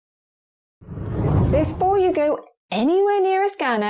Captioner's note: video effect whooshes